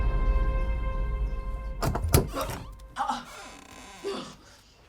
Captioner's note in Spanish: Anna tiene arcadas; la puerta se abre